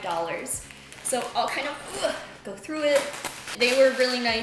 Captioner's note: groan